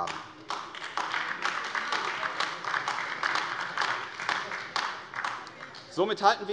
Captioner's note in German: Beifall AfD